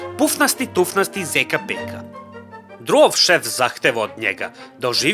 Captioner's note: none